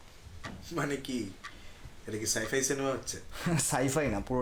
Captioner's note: chuckles